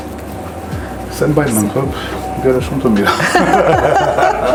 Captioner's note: laughs